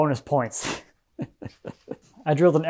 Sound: laughing

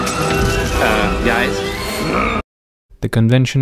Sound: intriguing music; grunt

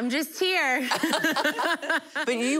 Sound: laughing

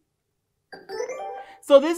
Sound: computerised sound

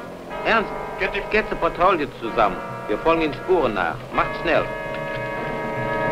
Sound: German spoken audio

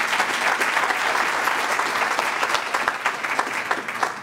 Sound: applause

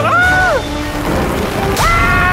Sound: clap of thunder

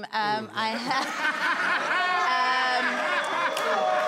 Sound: crowd laughing

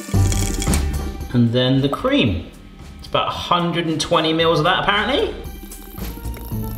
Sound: none

